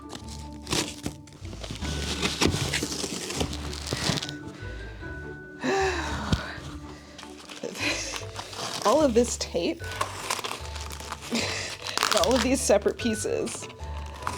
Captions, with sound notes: (paper rustling) All of this tape, all of these separate pieces,